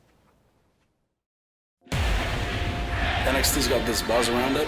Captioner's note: crowd cheering